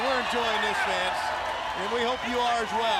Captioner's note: crowd cheering